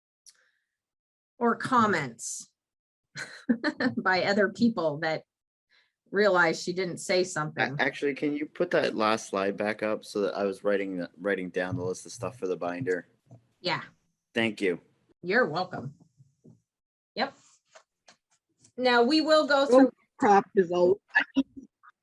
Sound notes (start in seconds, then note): 3.2 giggles